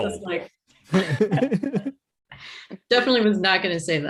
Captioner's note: group laughing